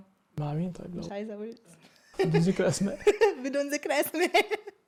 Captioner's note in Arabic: ضحك